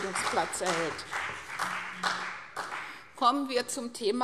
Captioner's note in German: Beifall CDU und BÜNDNIS 90/DIE GRÜNEN